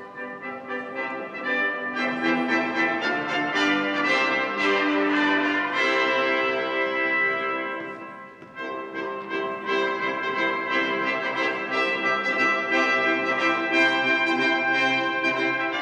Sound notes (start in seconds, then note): none